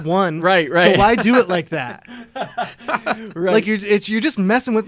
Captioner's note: laughter